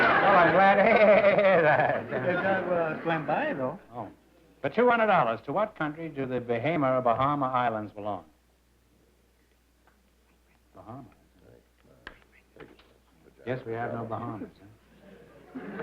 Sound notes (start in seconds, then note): 12.1 whispers